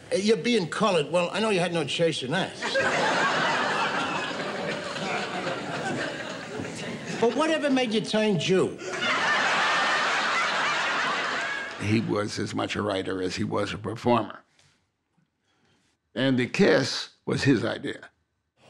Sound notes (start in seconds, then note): 2.5 audience laughing